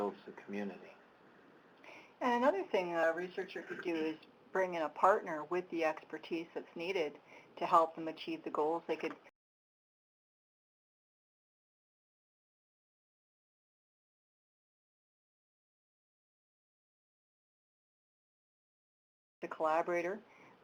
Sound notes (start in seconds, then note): 12.2 audio cuts out